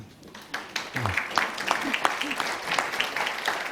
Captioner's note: audience applauds